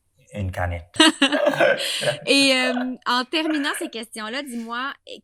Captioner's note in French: rires